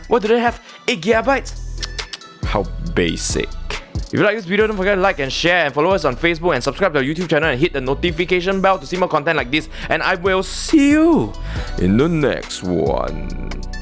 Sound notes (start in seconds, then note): 1.8 tsk tsk tsk